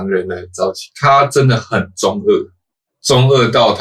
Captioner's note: edgy/overly dramatic